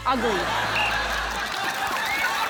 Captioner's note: blows whistle; applause, cheering